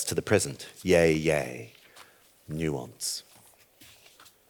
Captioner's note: speaks foreign language